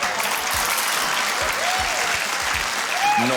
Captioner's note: beans splat; cheering, applause